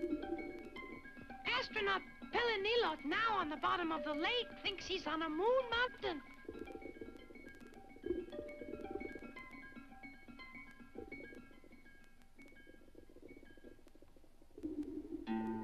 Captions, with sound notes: Astronaut Pellegnillot, now on the bottom of the lake, thinks he's on a moon mountain. (water bubbles) (mysterious string music)